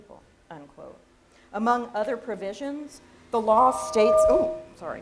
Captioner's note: audio feedback noise